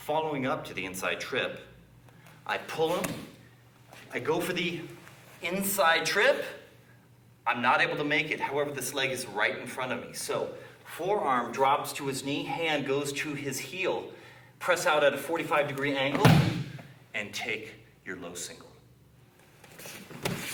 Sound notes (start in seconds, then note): 16.1 loud thumping